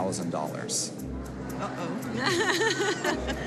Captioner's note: laughing